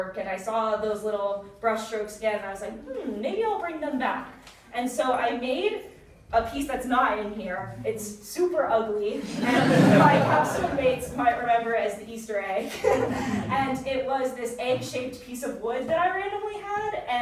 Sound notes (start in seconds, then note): 9.2 audience laughing; 13.1 laughs